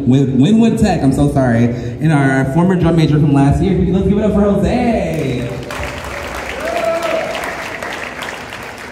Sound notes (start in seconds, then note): 5.6 cheers and Applause